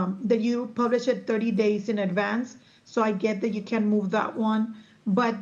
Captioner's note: none